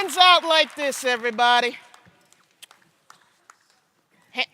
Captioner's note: cheers and applause